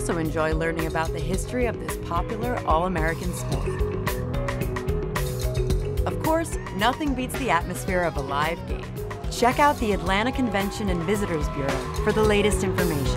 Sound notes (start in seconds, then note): 9.2 background crowd noise and cheers